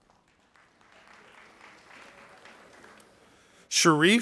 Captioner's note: audience applauding